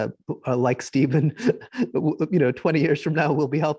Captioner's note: giggling